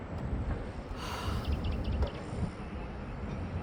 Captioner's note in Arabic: مزيد من الأنفاس العميقة لول